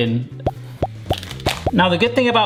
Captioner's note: pop sounds